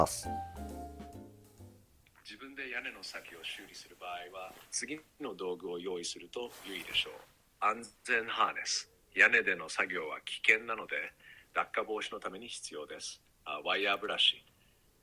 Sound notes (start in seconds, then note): 2.9 GPT advises in Japanese